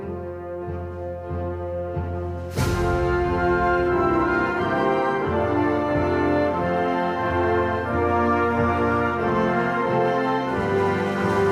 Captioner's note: audience chatter